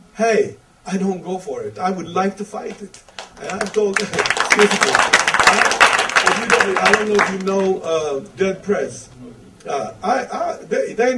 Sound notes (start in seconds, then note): 2.7 audience applause